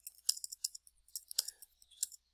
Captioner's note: more typing